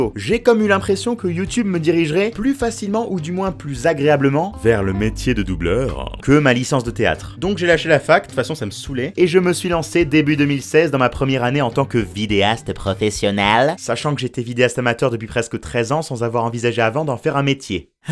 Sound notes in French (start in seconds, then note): 4.4 voix grave et magnifique; 6.1 retour à la voix normale